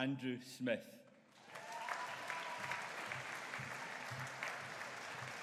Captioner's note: audience cheering